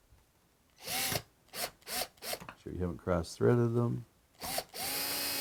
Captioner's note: drilling